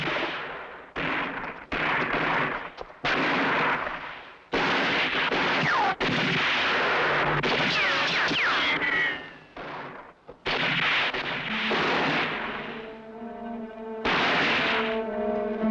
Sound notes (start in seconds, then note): 7.4 bullets ricocheting; 11.4 suspenseful music